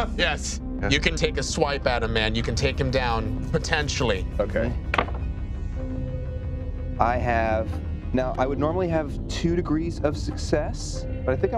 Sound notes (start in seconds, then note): 4.9 dice clatter